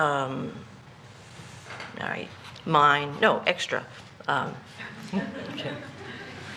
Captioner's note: laughter